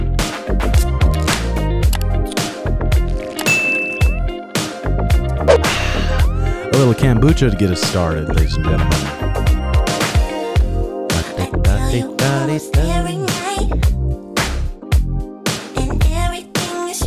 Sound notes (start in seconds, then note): 5.4 sips and sighs; 11.6 hums